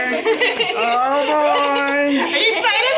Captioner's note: children laugh